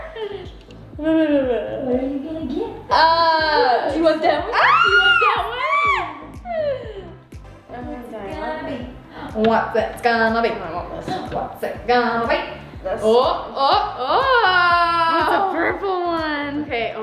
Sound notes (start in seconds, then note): 4.6 squeals